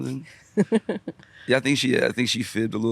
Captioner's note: chuckles